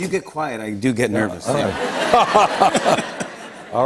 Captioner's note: laughter